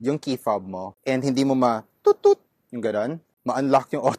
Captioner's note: imitates toot toot sound